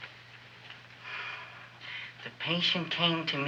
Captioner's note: Wilbur sighs